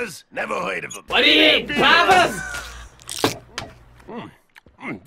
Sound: laughs

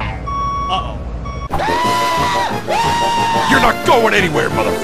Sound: screaming

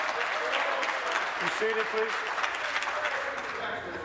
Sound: applause

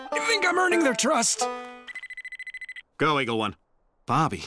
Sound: cell phone rings

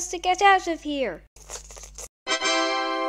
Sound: digging noises

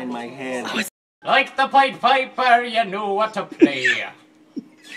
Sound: old man voice

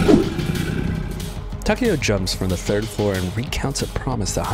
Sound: monster noise

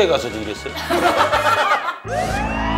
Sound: bwahahaha

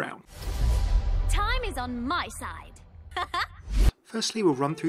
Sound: laughs

